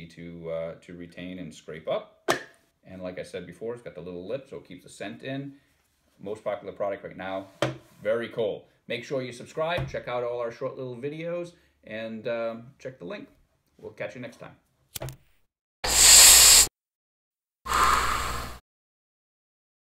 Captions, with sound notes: to retain and scrape up and like I said before it's got the little lip so keep the scent in. Most popular product right now. Very cool! Make sure you subscribe and check out all our short little videos and check the link. We'll catch you next time. [Lighter sparks] [Inhale] [Exhale]